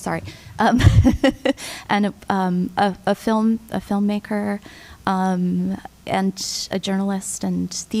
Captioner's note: laughter